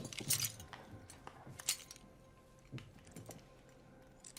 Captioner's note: collar clinking